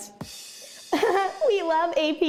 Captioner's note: laughter